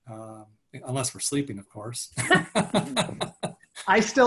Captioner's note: laughing